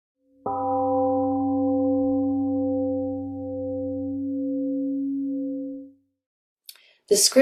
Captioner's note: temple gong sounds and fades